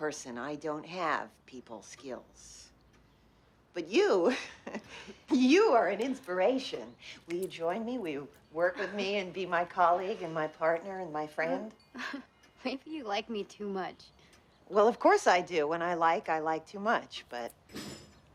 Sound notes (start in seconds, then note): 4.2 chuckles; 11.9 laughs